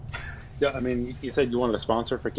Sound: laughing

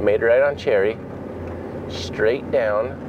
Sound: truck engine purring

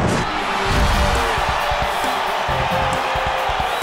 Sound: cheering

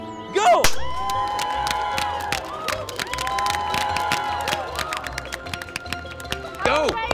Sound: cheers; confetti pops

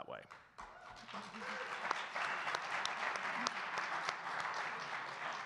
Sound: audience cheering and clapping

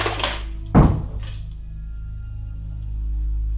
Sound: bang

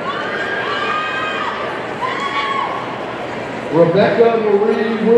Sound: audience cheering

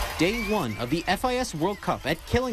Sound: nats cheers

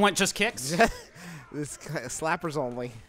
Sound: mumbles

